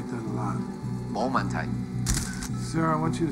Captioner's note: speaks Mandarin